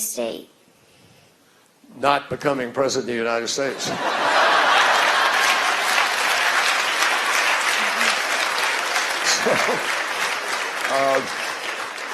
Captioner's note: laughter, applause